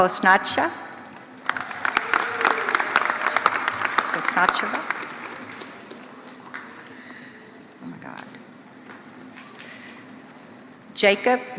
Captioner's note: applause